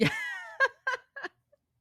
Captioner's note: laughs